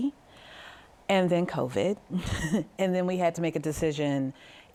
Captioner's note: laughs